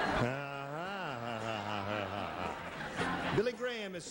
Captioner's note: laughs; audience laughs